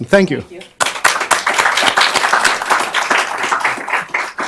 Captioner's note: applause